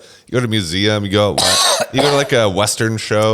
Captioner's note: laughs; coughs